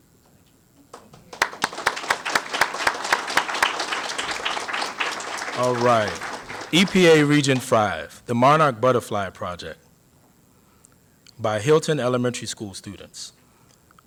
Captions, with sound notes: [APPLAUSE] All right, EPA Region 5, The Monarch Butterfly Project by Hilton Elementary School Students.